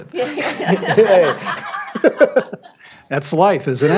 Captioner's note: laughter